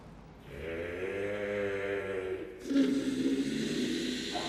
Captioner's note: ethereal groaning